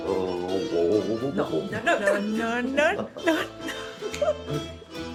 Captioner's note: chuckles